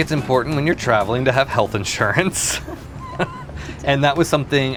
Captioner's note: laughs